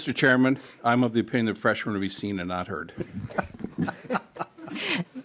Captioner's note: laughing